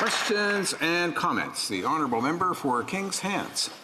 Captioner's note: some applause